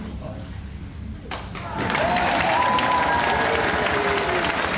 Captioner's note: crowd cheering